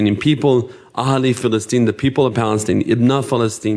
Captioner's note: speaking in foreign language